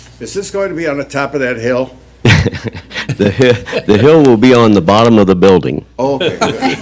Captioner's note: laughter; more laughter